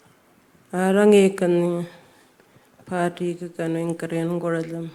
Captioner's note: speaking Anmatyerr